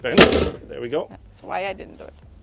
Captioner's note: seat slams